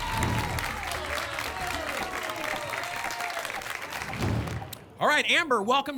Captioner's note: applause and cheering cont